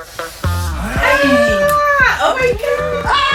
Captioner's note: sounds of excitement